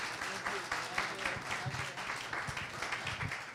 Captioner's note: applause